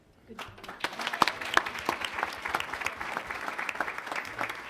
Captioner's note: attendees applauding